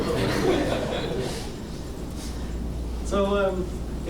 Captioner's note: audience laughing